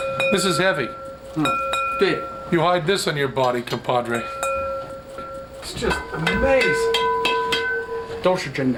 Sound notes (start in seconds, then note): 6.1 play ringing; 7.5 non-english speech